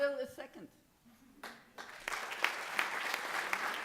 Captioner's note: applause